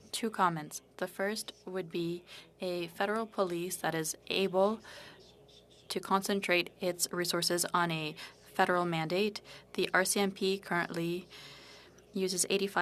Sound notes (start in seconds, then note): 3.9 speaking French